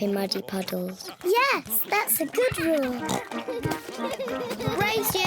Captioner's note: oinks